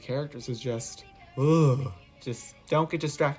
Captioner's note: quiver